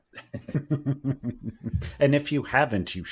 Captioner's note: laughter